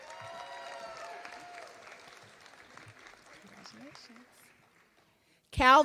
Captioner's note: applause